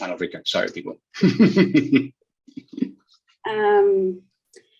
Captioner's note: chuckles